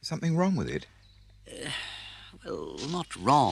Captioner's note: Rat sighs